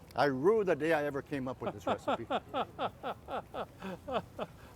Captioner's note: laughs